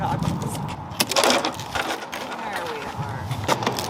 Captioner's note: scraping; wood breaking